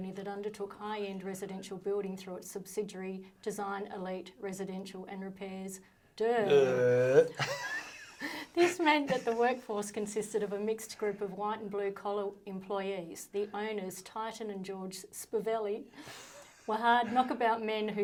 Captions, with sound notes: "that undertook high-end residential building "through its subsidiary, "Design Elite Residential and Repairs, DERR." - Derr. (both chuckling) - "This meant that the workforce consisted of "a mixed group of white and blue-collar employees. "The owners, Titan and George Spiveli (chuckling), "were hard knockabout men who started-"